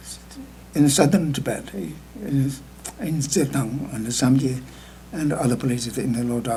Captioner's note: speaking tibetan